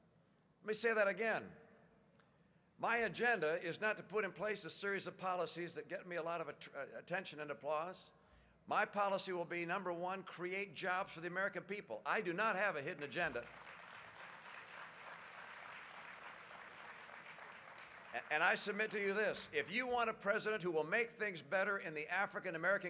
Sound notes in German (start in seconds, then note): 17.0 Applaus